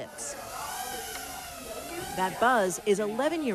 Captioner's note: drone buzzing